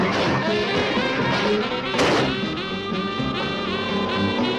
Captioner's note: suspenseful music; ground rumbling